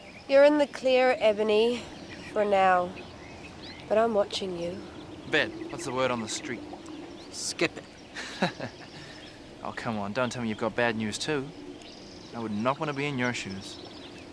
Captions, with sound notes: - You're in the clear Ebony for now, but I'm watching you. - Ved, what's the word on the street? - Skip it. (laughing) - Oh come on, don't tell me you've got bad news too. I would not wanna be in your shoes.